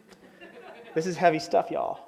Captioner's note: audience laughs